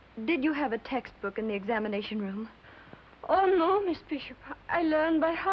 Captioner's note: foreign accent